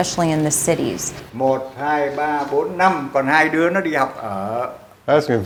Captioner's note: man speaking Vietnamese